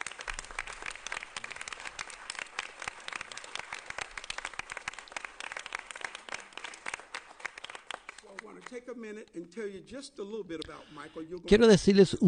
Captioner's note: applause